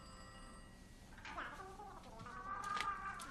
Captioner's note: dring!